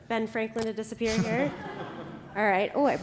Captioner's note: laughter